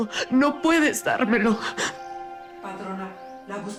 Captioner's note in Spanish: Sollozos